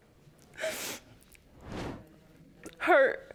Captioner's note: sobbing